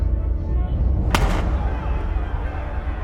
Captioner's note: gunshot, and crowd yelling